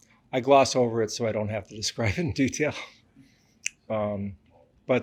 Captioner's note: laughs